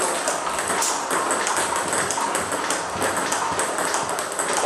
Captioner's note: ball ping pong hitting continues